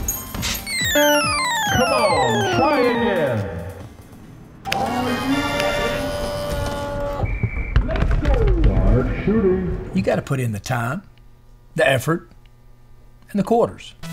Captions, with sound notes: [Chime indicating end of game]. Come on. Play again. [Chime indicating start of game]. Let's go. Large shooter. You got to put in the time, the effort, and the quarters.